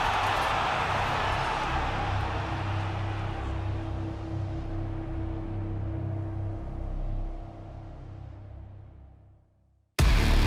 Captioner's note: crowd cheering